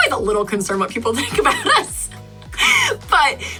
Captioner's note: laughs